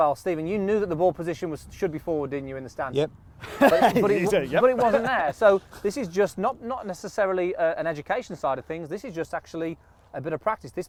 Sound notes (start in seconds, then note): 3.4 laughs